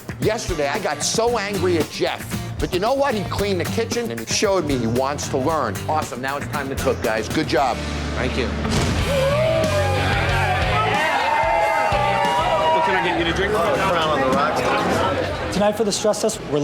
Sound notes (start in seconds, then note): 8.7 crowd cheering; 9.0 rock music